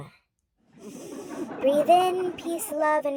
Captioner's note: exhales